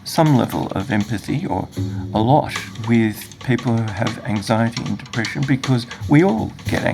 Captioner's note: murmurs